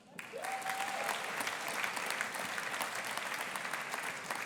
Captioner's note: audience applauding